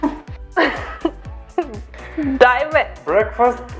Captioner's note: chuckles